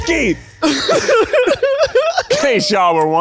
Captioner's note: offscreen laughter